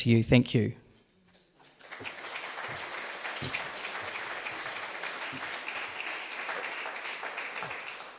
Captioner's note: audience applause